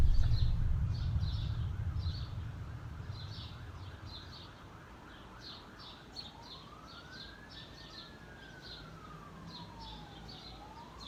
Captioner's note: explosions Continue; sirens